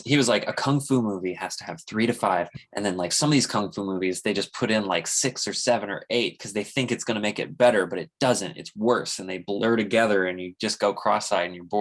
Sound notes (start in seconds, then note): none